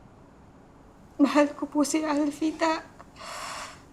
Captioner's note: sobs